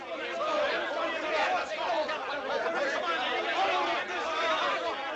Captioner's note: loud, overlapping chatter of men